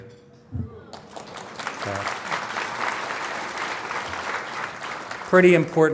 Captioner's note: applause